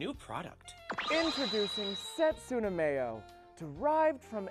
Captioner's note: magical digital zipping